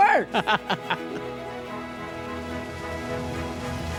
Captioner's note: laughs